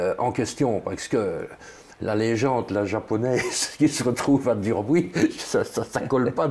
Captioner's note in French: rire